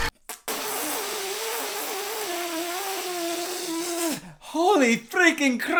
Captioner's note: impressively long spit-take